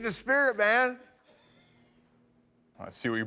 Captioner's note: laughs